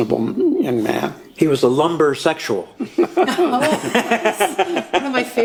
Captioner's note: laughs